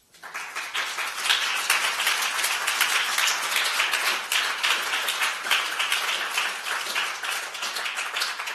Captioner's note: applause